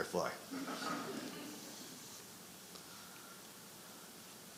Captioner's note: audience laughing